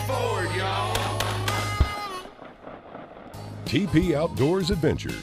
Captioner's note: several gun shots